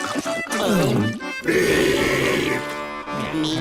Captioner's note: meeps gulp and burp